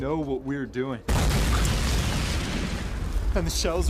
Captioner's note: bomb explodes